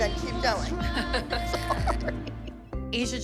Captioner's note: laughter